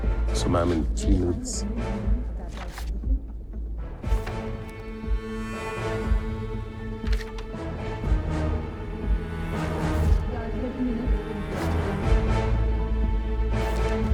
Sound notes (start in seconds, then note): 2.4 papers rustling